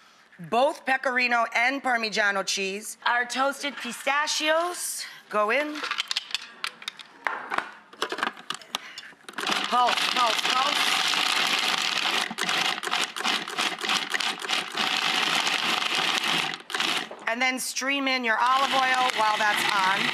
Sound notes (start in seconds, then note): 11.5 processor whirring